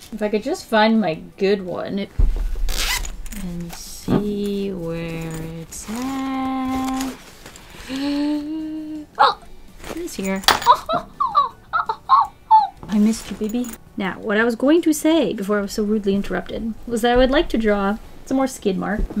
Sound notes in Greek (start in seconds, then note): 7.7 Βαθιά εισπνοή; 10.4 Κραυγές ανακούφισης